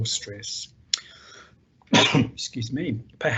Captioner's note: coughs